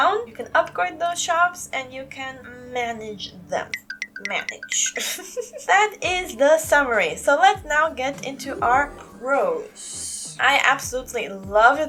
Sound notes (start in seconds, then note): 4.8 laugh